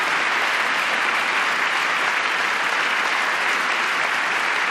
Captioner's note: applause